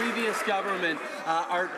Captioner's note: some Applause